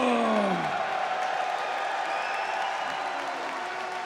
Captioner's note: audience cheers